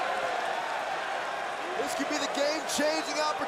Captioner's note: crowd cheering